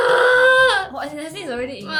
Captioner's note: screams